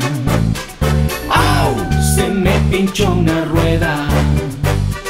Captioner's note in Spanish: Sonido de lobo